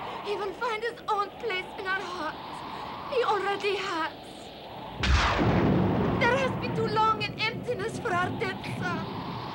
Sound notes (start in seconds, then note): 4.9 thunder clapping